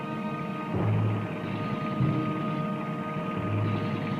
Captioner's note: engine sound approaching